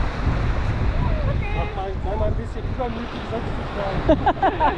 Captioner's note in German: gelächter